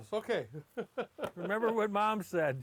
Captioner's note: laughs